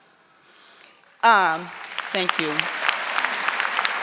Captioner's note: audience applauding